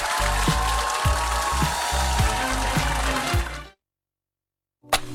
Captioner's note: applause